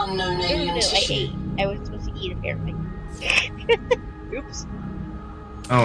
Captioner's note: laughter